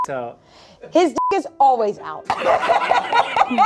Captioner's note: beep